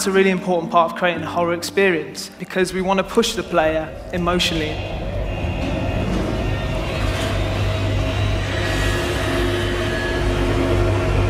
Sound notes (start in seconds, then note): 4.9 Sevastopol alarms and Xenomorph noises